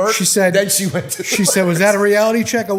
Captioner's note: chuckle